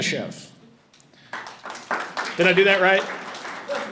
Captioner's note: audience applauding